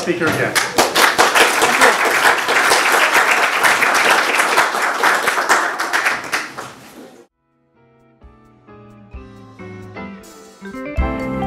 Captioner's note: applause